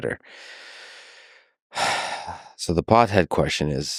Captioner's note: Lex sighing